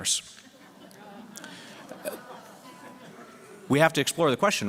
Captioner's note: laughter